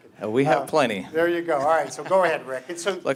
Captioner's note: laughter